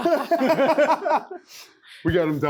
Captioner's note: men laughing